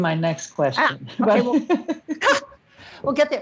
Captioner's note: laughter